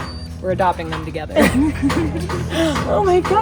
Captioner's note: all laughing